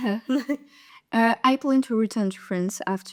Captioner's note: laughters